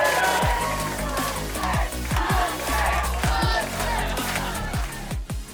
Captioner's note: audience chanting